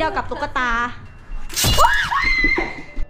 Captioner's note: screaming continues; screams